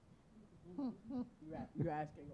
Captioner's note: chuckling